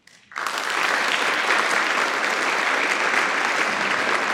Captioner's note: audience applauding